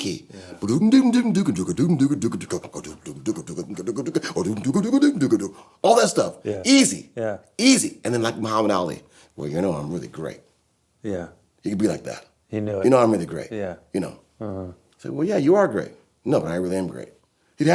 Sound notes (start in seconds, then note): 1.1 bass sound effects